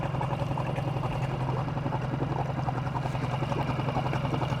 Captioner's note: boat engine droning